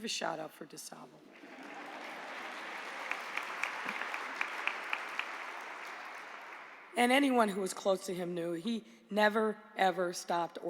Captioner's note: applause